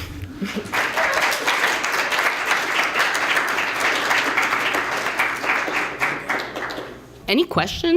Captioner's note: applause